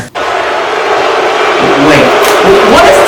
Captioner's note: crowd Booing